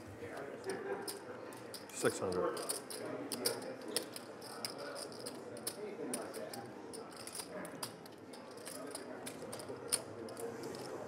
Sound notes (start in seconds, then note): 4.3 rattling of poker chips